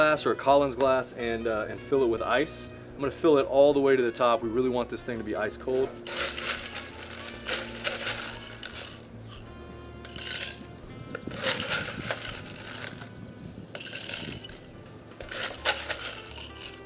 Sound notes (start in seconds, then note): 5.7 cup scraping; 9.9 ice clattering